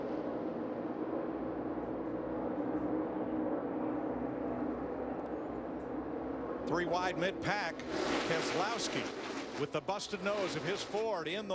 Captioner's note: engines roar